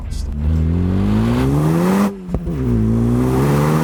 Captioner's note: engine revving